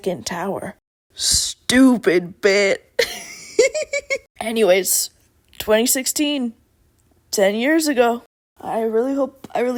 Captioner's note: laughs